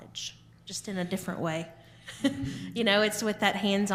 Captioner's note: chuckling